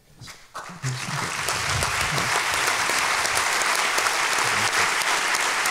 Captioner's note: applause